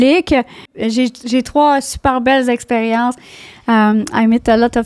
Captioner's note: in french